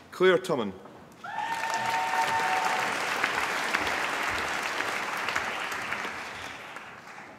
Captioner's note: applause